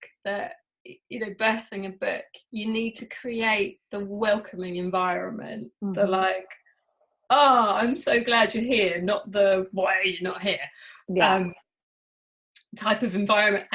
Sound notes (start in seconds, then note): none